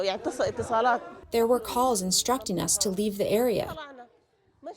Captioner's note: through translator